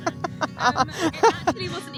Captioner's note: laughs